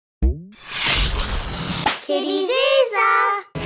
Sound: whooshing

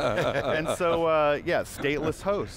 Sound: laughter

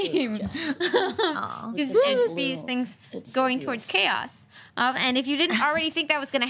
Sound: laughs

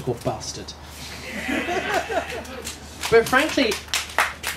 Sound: applause

